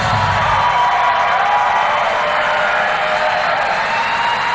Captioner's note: crowd cheering